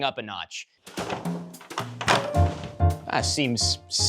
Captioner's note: rustling